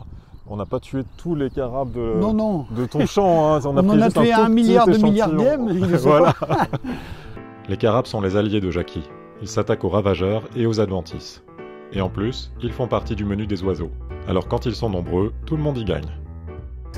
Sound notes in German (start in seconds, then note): 6.4 lachen